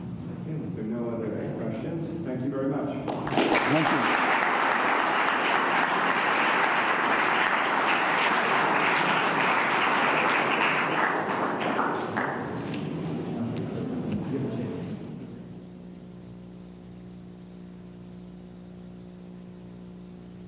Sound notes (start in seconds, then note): 5.0 applause